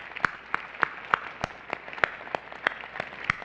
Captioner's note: applause